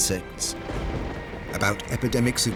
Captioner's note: thunder crashing